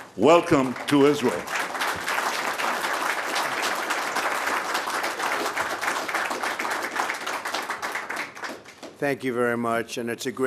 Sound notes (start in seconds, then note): 2.3 applause